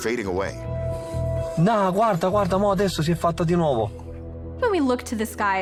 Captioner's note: man speaking foreign language